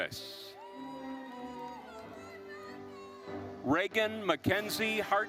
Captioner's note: audience cheering and applauding